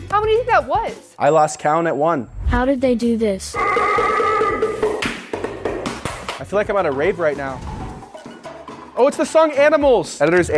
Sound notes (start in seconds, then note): 4.9 hands clapping; 7.7 upbeat music